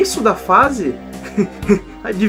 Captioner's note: laughs